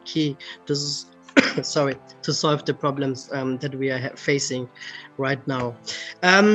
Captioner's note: coughs